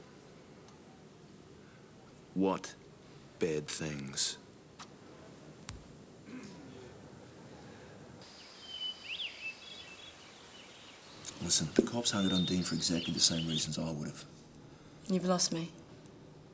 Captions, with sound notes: What bad things? (Dean exhales) (birds chirping) Listen, the cops hounded on Dean for exactly the same reasons I would've. - You've lost me.